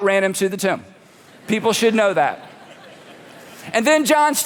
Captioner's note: congregation laughing